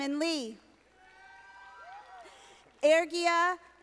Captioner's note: audience applauding